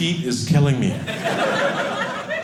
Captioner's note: audience laughing